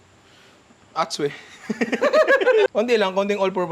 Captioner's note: laughter